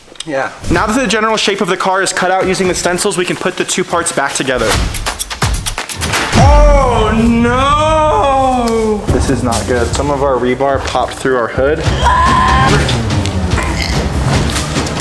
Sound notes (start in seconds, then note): 11.9 screaming